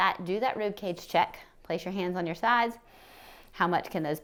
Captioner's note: inhales